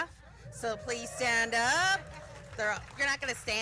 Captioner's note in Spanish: aplausos